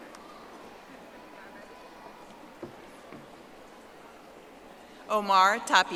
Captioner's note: audience applauding